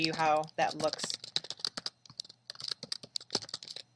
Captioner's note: typing on keyboard